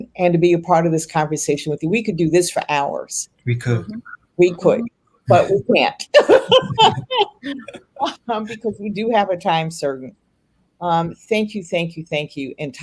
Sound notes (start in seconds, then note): 6.1 laughs